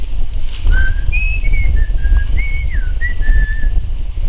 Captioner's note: whistling